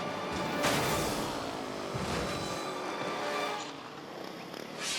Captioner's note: dynamic orchestral music; bikes crashing